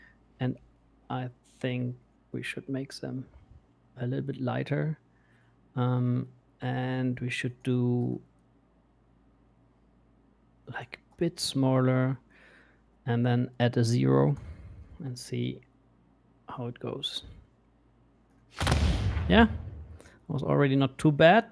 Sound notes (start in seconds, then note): 18.6 booming sound